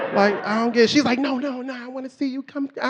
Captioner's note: audience laughing